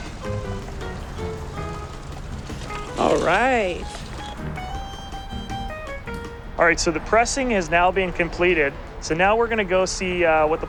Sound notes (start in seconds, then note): 0.0 upbeat music; 3.2 juice sloshes into container; 6.8 upbeat music